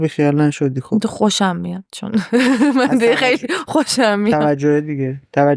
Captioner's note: laughs